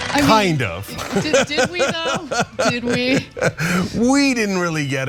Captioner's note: laugh